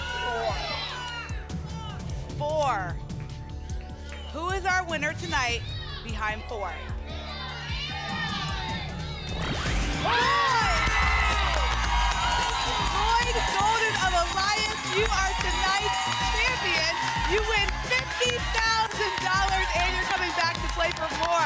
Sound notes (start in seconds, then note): 7.3 cheering; 11.0 applause and cheering